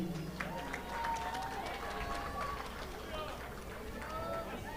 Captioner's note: audience applauding